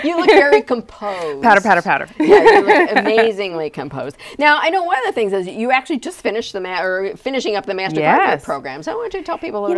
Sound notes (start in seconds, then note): 2.3 laughing